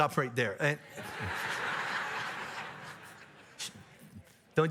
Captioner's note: audience laughs